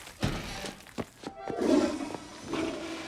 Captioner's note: toilet flushes